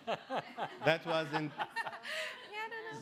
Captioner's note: laughing